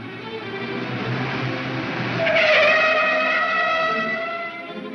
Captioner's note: tires screech